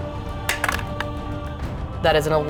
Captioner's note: dice rattling